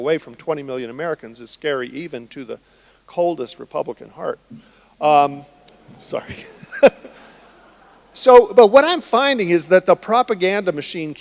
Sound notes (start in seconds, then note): 5.8 laughs; 5.8 audience laughing